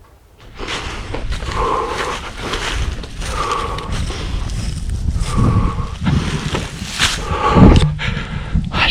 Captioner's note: crunching/beathing